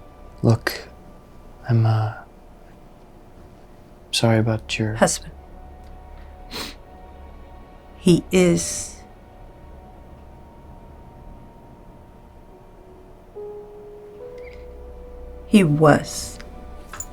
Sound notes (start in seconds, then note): 6.4 sniffle